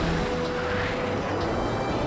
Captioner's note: jets roar into sky